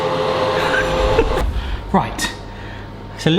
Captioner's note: laughs